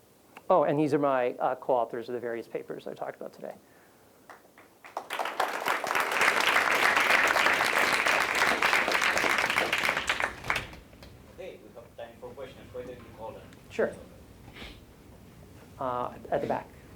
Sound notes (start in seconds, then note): 4.2 applause